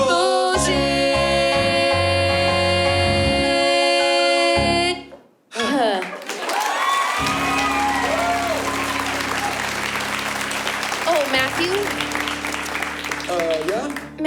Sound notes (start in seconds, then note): 5.6 sighs; 5.6 applause